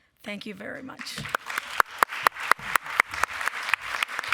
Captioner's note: applause